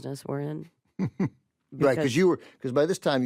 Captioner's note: chuckles